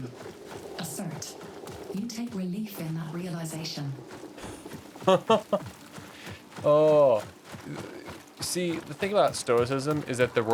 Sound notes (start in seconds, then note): 5.0 laughter